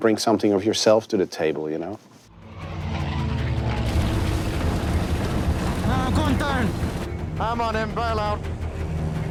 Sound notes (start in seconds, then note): 2.3 dramatic music; 2.4 airplanes flying; 3.7 airplane rattling